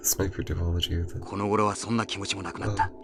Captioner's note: speaking in-game